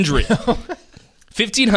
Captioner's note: laughing